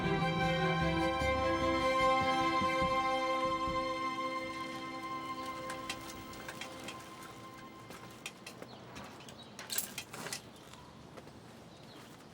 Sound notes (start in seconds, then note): 4.4 birds chirp; 5.4 bike wheels click